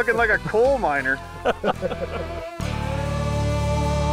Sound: laughter

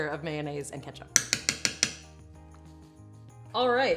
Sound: spoon tapping bowl

